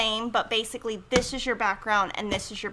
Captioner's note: thuds hand